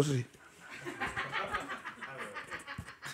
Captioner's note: laughter